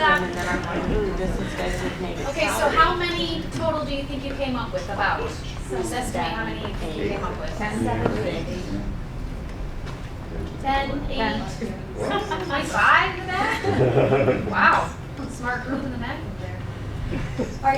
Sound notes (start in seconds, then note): 13.3 laughing